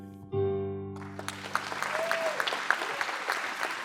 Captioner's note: applause